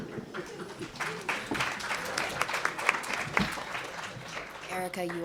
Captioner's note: audience applauding